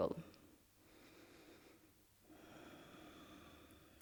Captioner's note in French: Inspire - expire